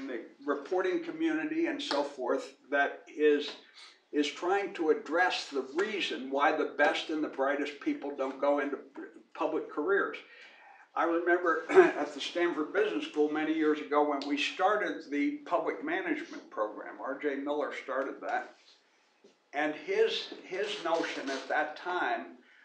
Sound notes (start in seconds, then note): 11.6 cough